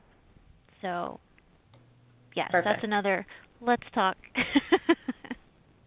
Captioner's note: laughs